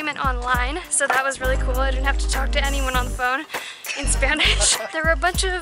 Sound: laughter

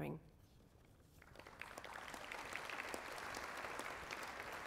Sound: applause

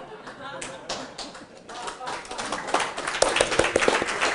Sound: applause

